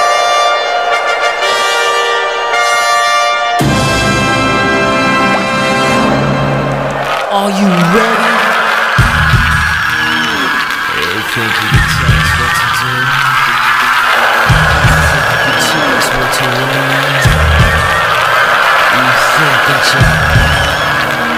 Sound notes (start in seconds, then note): 8.2 everyone cheering for SpongeBob; 19.0 cheering continues